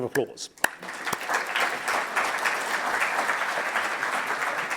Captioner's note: audience applauds